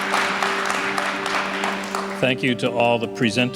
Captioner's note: applause